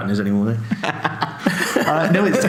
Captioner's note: laughs